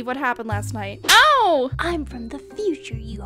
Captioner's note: slap